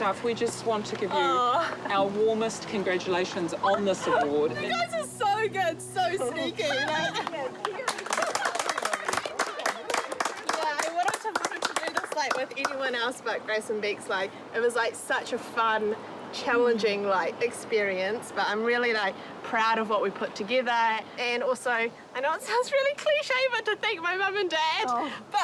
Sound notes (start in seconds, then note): 6.7 applause